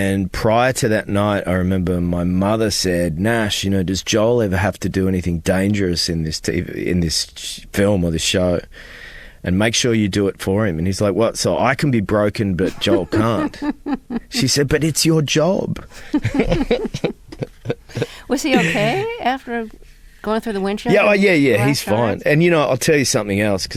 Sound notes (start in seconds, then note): 12.6 laughter; 15.9 laughter